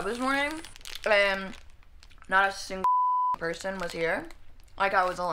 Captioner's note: beeping